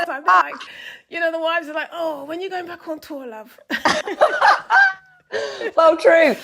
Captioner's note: laughing